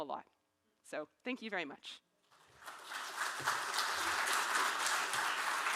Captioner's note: audience clapping